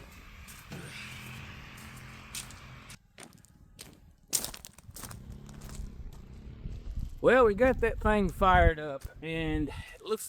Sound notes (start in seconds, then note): 1.6 footsteps Crunching